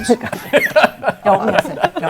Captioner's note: laughter